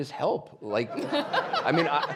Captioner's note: audience laughing